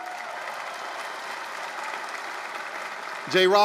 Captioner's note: applause, cheering